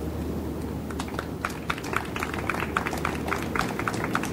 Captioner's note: audience applauds